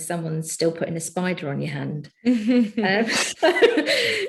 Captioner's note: chuckling